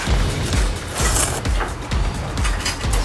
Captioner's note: slurp